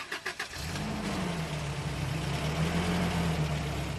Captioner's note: engine revving